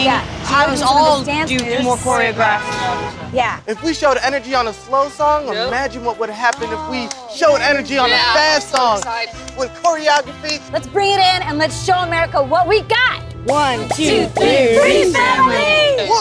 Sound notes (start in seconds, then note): 14.1 bubbles popping